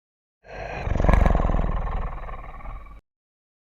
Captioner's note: Dryconiac inhales and exhales a relaxed growl